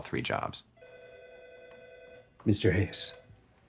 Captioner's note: phone rings